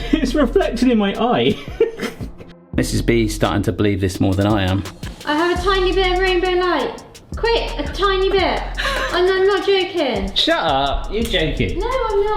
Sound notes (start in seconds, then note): 8.6 laughs